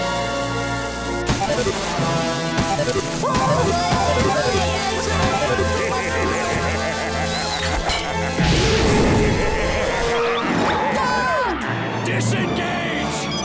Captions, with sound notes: [screaming] [laughing] [laughing] Duck! Disengage!